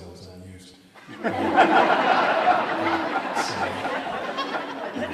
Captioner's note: audience laughs